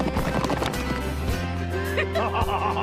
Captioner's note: laughing